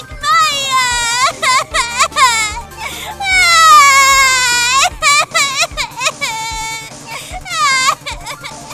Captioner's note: crying!